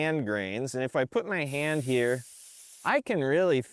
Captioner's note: air hissing